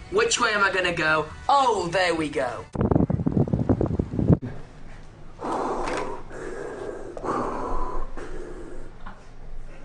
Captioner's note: Darth Vader noises